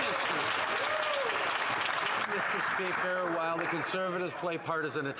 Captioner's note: applause